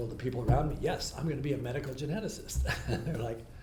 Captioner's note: laughs